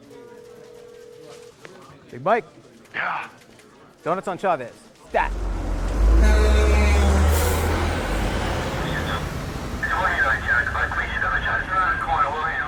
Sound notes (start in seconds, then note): 0.0 phone faintly ringing; 5.2 truck horn honking; 5.3 traffic whizzing